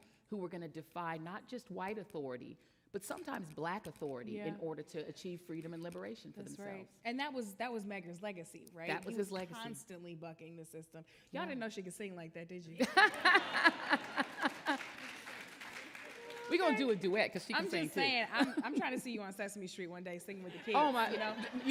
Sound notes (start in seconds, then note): 12.8 laughing; 13.0 audience applauding